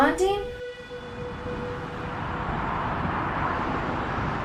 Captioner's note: car driving